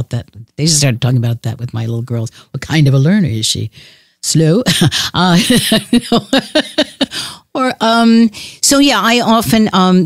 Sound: chuckles

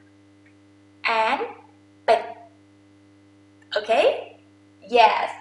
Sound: talking in foreign language

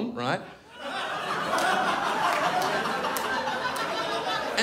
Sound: crowd laughs

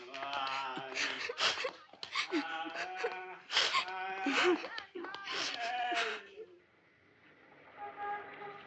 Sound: Yeong-cheol and Yeong-hui cry sadly

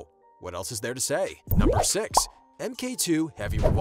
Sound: bubble popping; whooshing

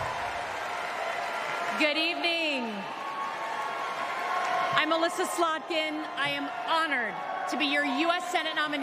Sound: cheers and applause

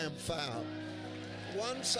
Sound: congregation cheers

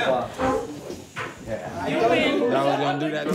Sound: indistinct chatter

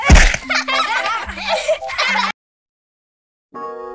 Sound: laughing

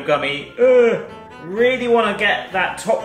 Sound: groans

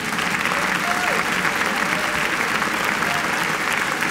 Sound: cheers and applause

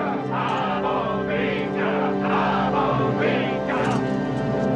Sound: men chanting

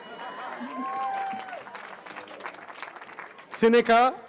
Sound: cheering

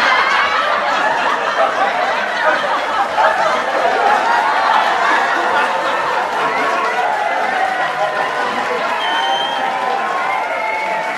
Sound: laughter; clapping and cheering

